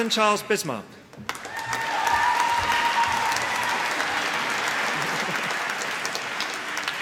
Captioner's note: applause